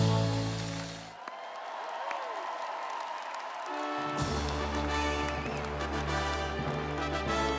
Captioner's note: audience cheering and applauding; instrumental music